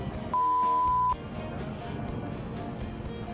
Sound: beeps

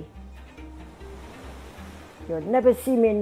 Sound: surf rustling

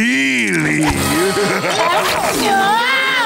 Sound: laughing; screaming

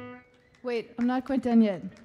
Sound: mellow guitar music; audience cheering

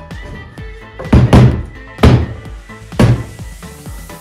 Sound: banging

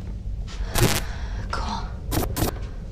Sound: static noise

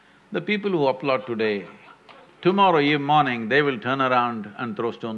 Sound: few laugh

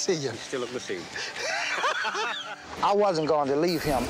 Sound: laughing

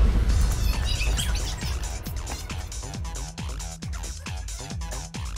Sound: sped up audio sound effect

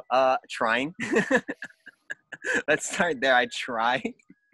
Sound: laughs

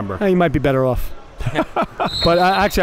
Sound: laughing

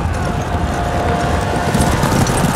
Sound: hooves clopping

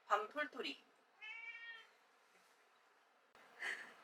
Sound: meow~

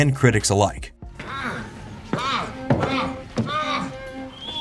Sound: moaning

